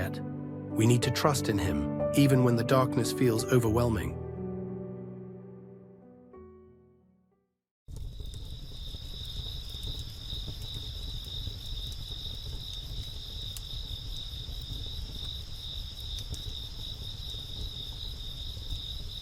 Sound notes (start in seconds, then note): 8.2 crickets chirping; 15.9 crickets chirping continues